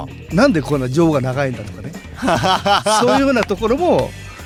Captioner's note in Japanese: 笑い